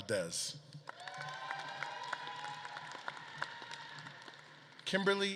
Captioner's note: audience claps and cheers